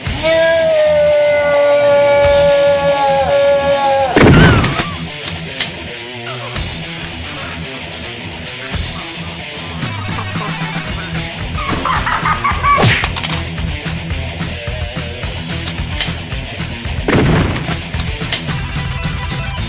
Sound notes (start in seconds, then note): 11.6 other cartridges laughing evilly; 12.8 Sound of uppercut to the Ultraman